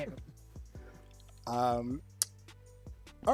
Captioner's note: sucks teeth